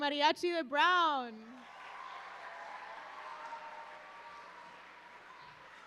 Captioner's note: applause